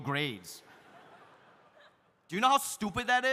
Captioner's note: audience laughs